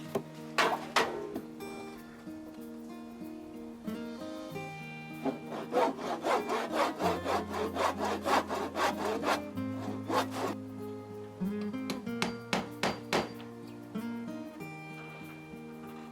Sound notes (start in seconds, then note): 5.2 wood crunching